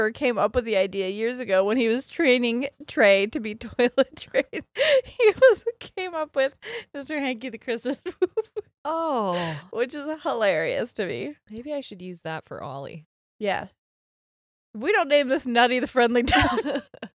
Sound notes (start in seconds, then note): 7.8 laughing